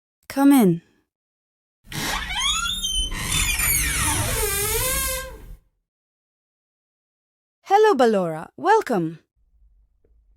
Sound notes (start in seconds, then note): 1.8 door Screeching